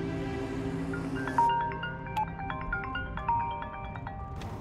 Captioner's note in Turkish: Telefon çalıyor